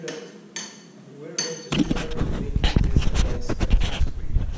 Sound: microphone static

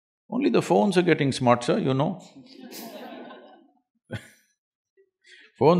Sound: laughter

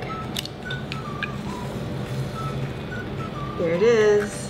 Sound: shell cracking

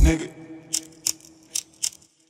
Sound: lighter sparking

